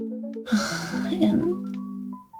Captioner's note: sad sigh